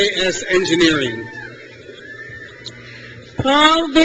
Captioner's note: crowd cheers